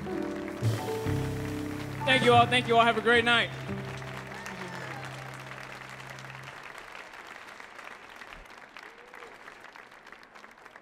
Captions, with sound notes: [audience applauds] Thank you all, thank you all, have a great night. [audience cheers]